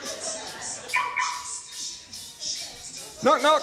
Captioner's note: Will's van locks with a beep